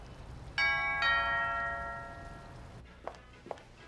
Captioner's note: door bell rings